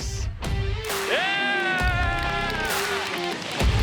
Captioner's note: cheering